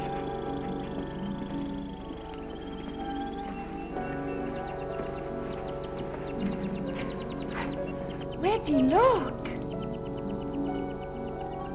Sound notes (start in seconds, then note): 8.4 eerie music; 8.6 ominous music; 8.8 birds chirping